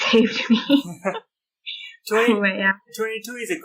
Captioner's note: laughter